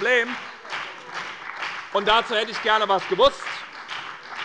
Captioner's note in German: Beifall bei der SPD und der FDP